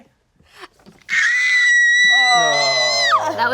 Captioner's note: yells